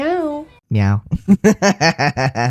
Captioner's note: laugh